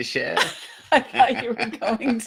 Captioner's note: laughing